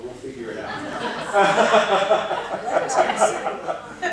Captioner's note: laughing